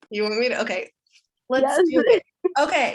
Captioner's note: chuckles